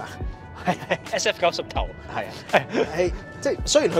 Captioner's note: laughs